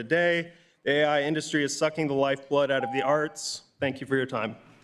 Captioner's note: beep